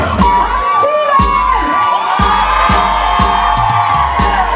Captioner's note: crowd cheers